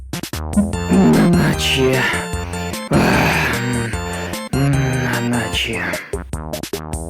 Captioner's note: Loud breathing paired with calling Nanachi's name